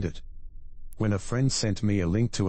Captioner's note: electrical noise